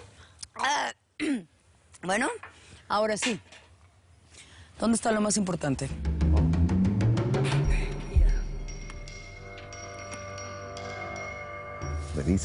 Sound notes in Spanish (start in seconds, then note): 1.2 Carraspea